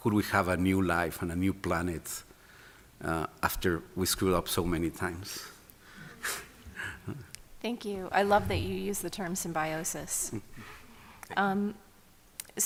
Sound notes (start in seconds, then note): 5.9 laughing